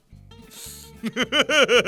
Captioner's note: inhale; more laughter